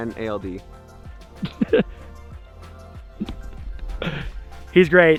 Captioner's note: laughs